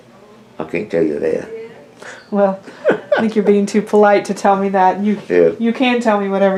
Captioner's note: laughter